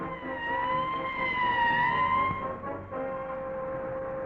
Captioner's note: sirens blaring